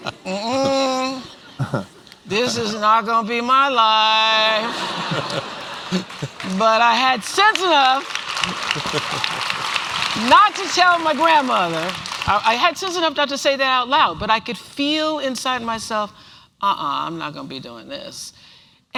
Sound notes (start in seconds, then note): 8.0 applause